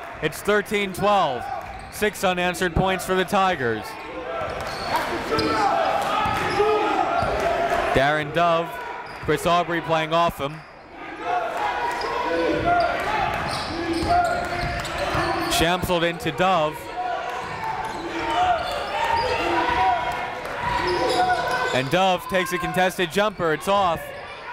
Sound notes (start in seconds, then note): 11.4 coaches yelling; 11.4 crowd talking; 18.6 coaches yelling; 18.6 crowd talking